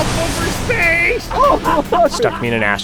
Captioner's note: laughter